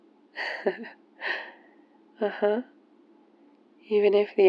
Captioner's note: laughs